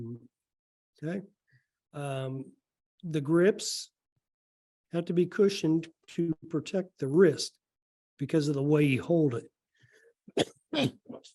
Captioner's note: coughs